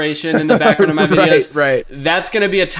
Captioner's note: laughing